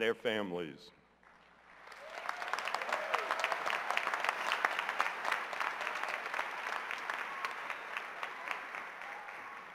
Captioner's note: cheers and applause